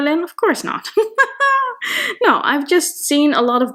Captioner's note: laughing